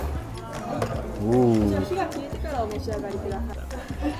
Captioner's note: server speaking